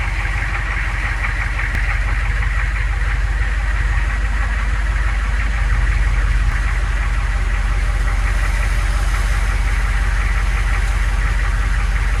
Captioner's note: idling hmmwv engine, radio waves sound effect